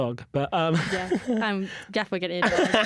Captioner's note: laughter